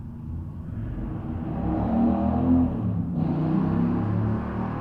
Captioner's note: loud car in the background; even louder engine rev